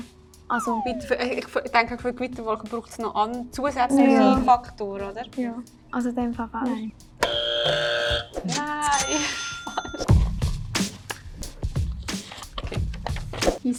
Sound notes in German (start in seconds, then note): 7.2 Buzzer falsch; 7.2 ka-tsching; 10.1 langsamer Hip-Hop